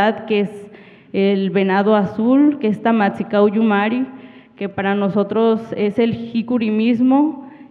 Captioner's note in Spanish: habla en wixárika